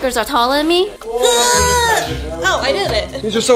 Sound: grunting

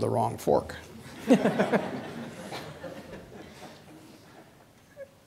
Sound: audience laughing

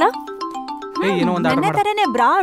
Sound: phone rings

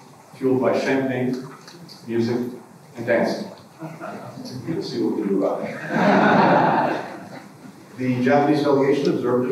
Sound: laughter

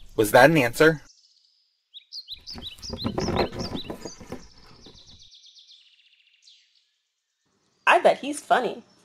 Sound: birds

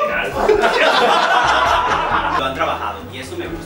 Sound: laughs

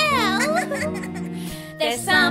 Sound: giggling

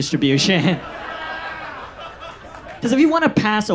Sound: audience laughs

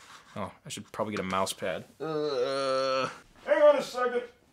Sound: grunting

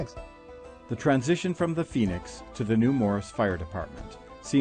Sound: voiceover

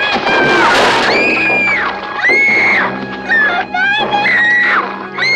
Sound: screaming

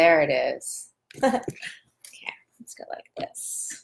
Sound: laughs

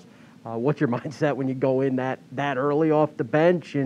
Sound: laughing

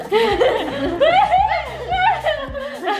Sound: laughing

